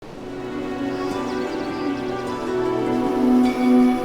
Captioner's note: birds chirping